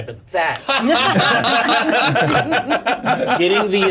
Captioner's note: laughter